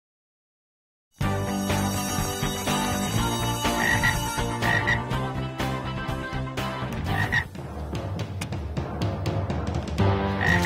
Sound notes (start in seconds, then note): 1.3 bell rings; 1.3 upbeat music; 3.6 frog croaking; 5.2 upbeat music; 7.0 frog croaking; 8.1 upbeat music